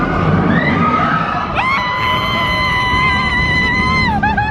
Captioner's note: screaming